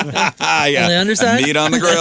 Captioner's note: laughing